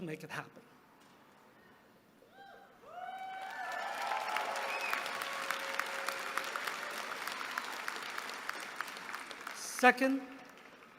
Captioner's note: applause